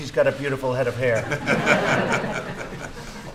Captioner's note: laughter